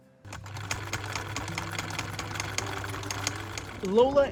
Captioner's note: sewing machine whirring